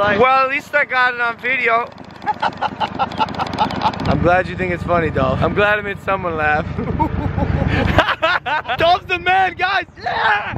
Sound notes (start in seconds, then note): 2.1 laughs; 6.8 Logan laughs